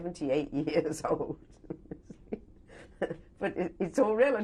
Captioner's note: laughs